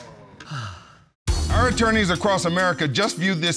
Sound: sighs

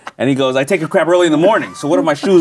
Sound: laughing

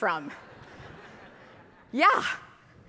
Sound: audience laughing

